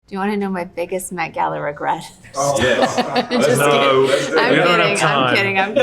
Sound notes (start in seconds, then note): 2.2 Kim laughing